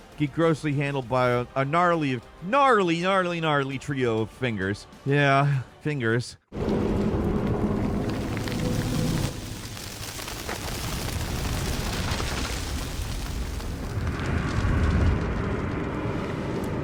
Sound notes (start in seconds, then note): 6.5 flames crackling; 6.6 wind whooshing